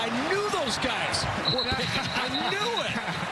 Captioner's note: laughter